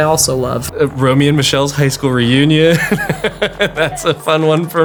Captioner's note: laughs